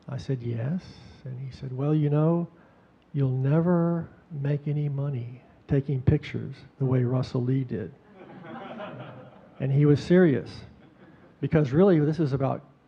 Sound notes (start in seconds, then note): 8.1 audience chuckling